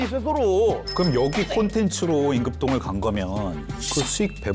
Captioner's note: sound effect: switching to lawyer mode